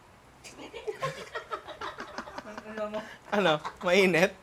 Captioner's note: laughter